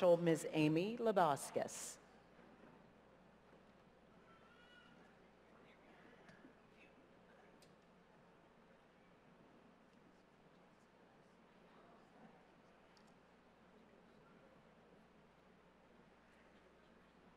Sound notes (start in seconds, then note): 2.0 silence